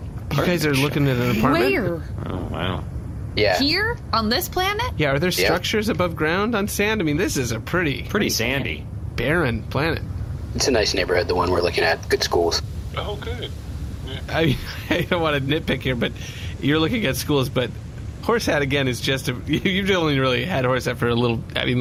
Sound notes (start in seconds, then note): 14.1 laughing